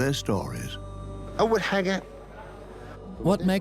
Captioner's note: Arabic dubbed in English